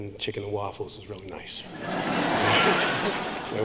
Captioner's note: laughing